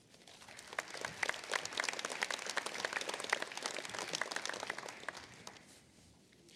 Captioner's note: applause